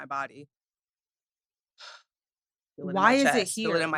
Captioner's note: breathes deeply